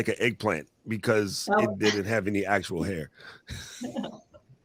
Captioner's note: laughs